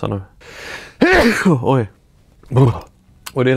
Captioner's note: sneezes loudly